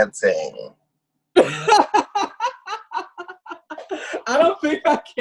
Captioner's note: laughs